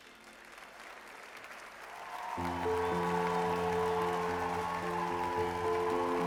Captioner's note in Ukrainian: оплески